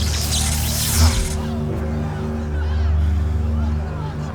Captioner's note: light saber hissing; grunts